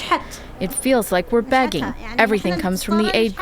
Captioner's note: through translator